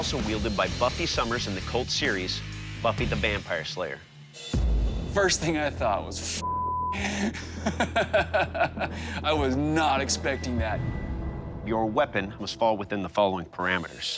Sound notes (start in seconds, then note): 7.0 laughs